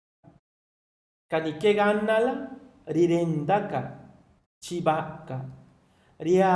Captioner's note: man speaks in foreign language